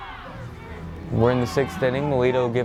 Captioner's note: fans chanting